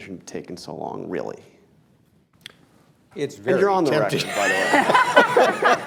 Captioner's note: laughter